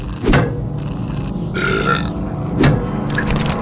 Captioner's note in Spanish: eructa